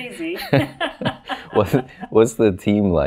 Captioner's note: laughs